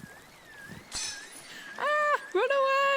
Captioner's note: alarm siren in background